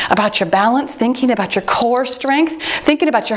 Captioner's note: timer beeps